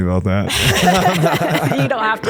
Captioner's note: laugh